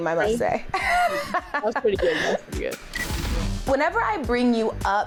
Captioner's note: laughing